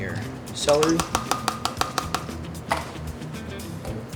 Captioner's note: container clatters; upbeat music